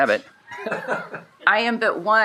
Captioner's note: shared laughing